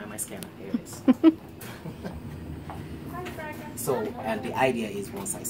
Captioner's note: chuckles